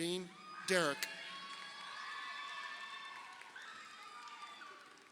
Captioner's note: crowd cheering